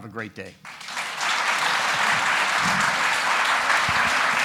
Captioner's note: audience applauding